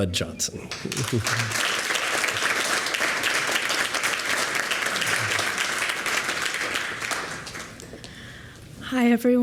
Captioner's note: applause